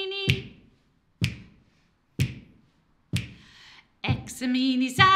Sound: finger click x4

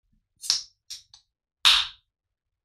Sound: can opening

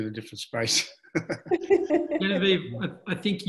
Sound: all laugh

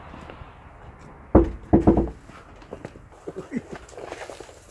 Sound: loud knocking

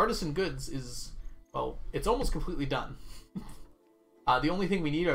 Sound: chuckles

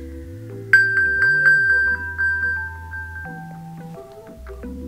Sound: iPhone pinging

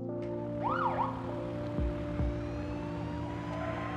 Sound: sirens wailing

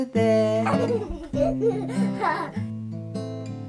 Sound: giggles

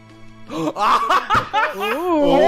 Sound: gasp

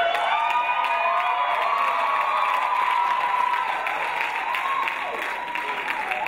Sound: crowd applauding; crowd cheering

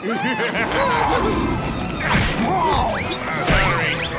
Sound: laughing; roaring

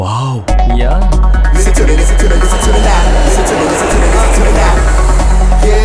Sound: aeroplane zooming

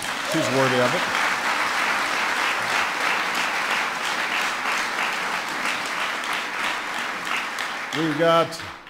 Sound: applause

